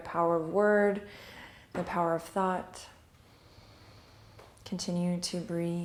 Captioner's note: inhale